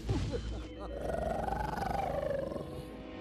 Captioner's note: growling